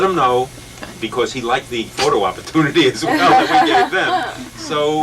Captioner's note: laughter